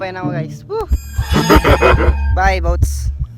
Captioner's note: scary laugh